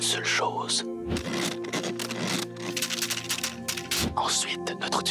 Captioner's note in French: frottement et cliquetis